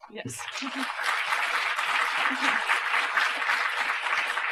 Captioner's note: applause